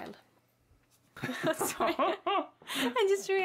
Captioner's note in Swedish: Skratt